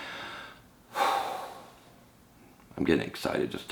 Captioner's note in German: seufzt